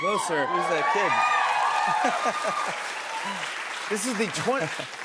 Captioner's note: cheers and applause; laughs